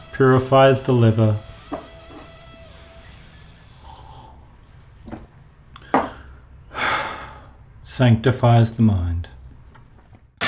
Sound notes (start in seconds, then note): 6.7 sighs